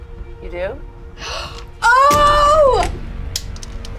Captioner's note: gasps; tense music